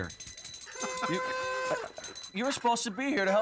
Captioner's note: laughs